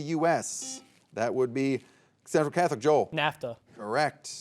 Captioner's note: soft beeping